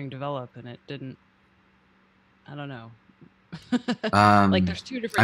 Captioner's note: chuckling